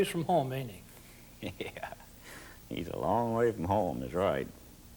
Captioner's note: laughs